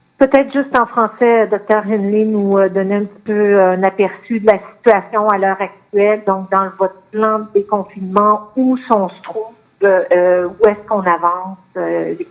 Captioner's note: speaking French